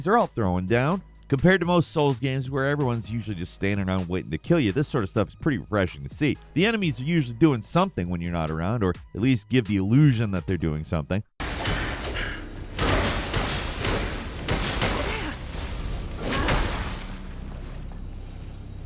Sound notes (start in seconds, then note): 11.4 blows landing